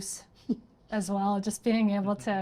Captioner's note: laughing